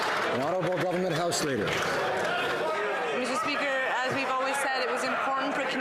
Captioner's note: some Applause